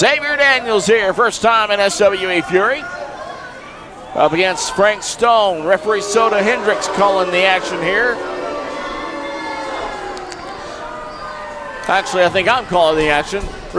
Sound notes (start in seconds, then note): 8.1 crowd jeering